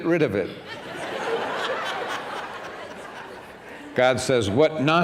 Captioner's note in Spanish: risas